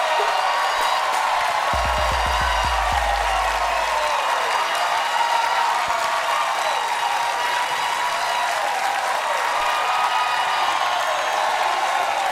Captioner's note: cheers and applause; audience chanting stephen